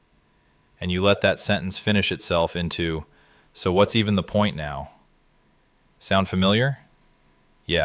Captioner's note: exhales